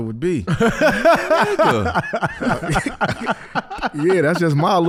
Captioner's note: laughs